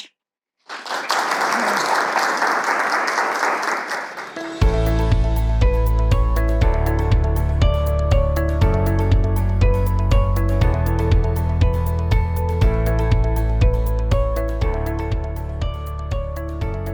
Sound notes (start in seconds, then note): 0.6 audience applauding; 4.6 upbeat music